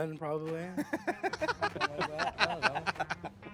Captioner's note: laughing